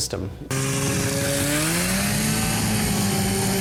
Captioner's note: engine revving